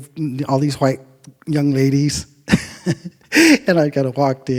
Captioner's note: chuckles